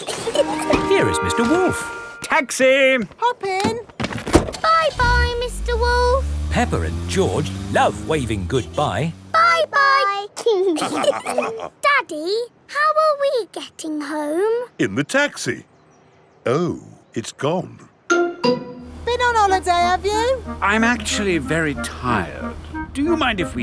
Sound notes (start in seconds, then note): 0.1 both laughing; 4.2 engine starts; 10.7 all laughing